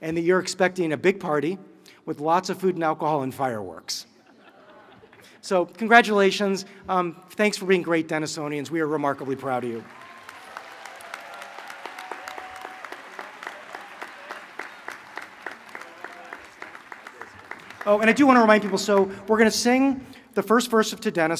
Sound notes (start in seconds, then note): 9.1 applause